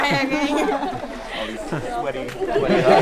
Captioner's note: speaking foreign language; laughing